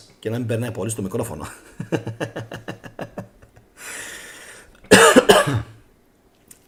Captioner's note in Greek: γέλια